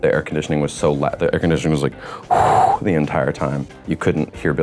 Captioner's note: blows